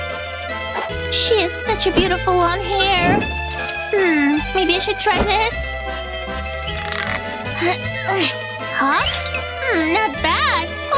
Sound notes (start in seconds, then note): 6.0 groans